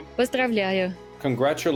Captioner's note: non-english speech